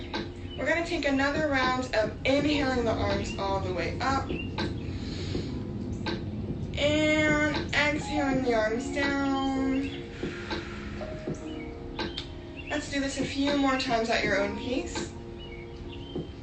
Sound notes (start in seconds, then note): 4.8 inhales; 10.0 exhales